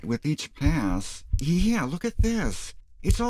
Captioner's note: heartbeats